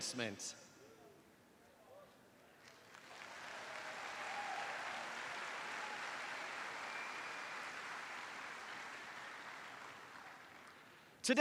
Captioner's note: applause